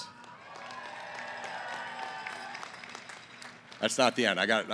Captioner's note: cheering & applause